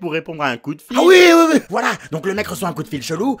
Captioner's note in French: accent du sud